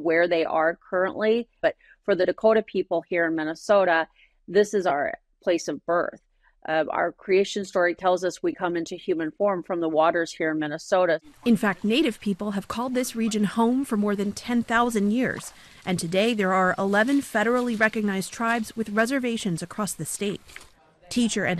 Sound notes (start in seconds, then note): 11.8 voice-over